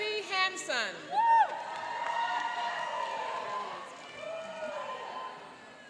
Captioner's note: cheering and applauding